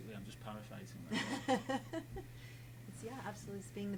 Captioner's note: laughing